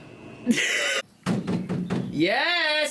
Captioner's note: door knocking